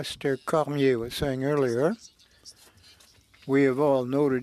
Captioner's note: speaking French